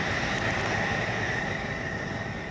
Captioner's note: plane noise